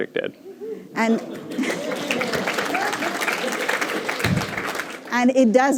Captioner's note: applause